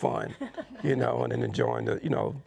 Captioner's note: participants chuckling